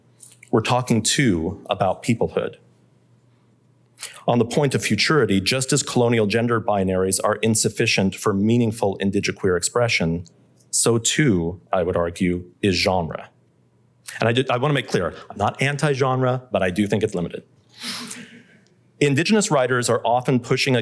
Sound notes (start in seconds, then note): 17.7 laughter